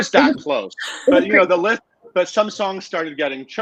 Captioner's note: laughing